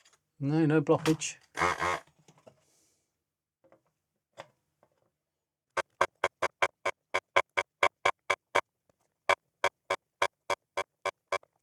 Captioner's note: buzzer